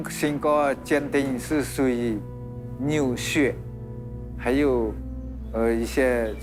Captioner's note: none